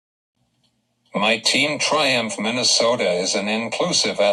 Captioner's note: voiceover